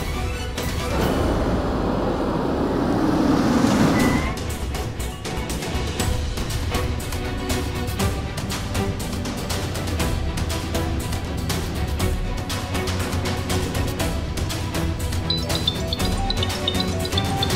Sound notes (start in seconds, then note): 0.6 tense music; 7.2 dramatic music; 15.3 phone ringing